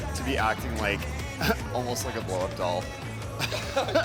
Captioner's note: chuckles